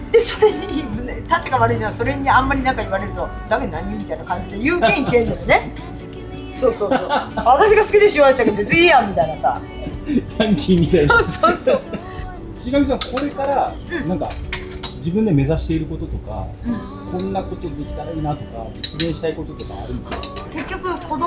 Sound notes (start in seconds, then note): 11.8 laughs